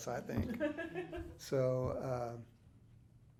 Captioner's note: interviewer laughing